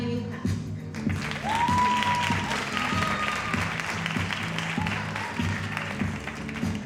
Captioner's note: audience cheering and applauding